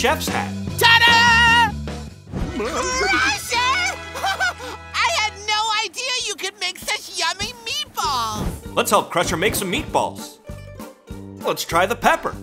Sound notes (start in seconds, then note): 3.9 chuckles